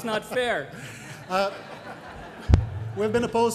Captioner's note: guy and crowd laugh